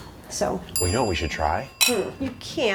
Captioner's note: light bulb dinging